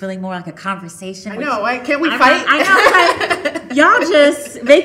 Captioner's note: laughing